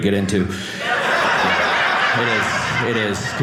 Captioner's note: audience laughing